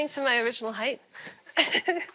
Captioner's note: laughs